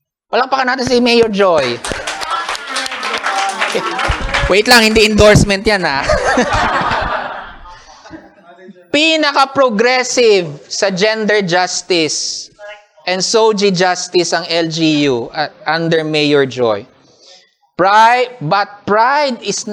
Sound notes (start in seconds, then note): 1.5 applause; 6.0 laughter